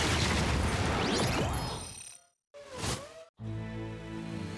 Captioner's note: explosion